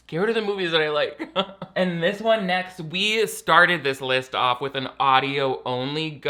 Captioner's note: laughs